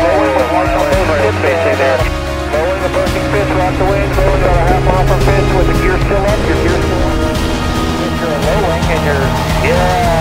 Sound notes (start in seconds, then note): 0.3 muffled speaking over radio; 4.5 plane engine roaring